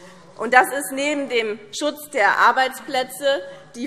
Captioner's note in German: none